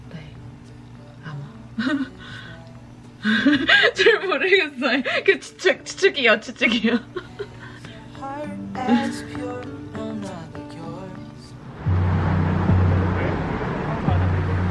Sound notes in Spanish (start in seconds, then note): 3.2 riendo; 12.0 música animada